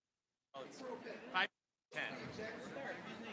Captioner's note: chatter